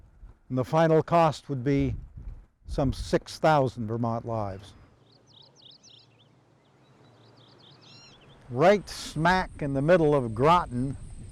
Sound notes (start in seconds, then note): 3.4 birds chirping